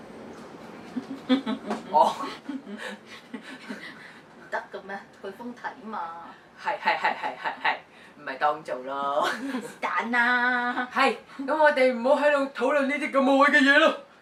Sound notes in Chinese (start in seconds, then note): 0.9 尷尬笑着